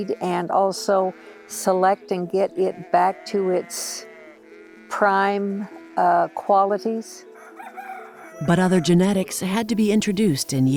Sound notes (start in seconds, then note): 7.3 rooster crowing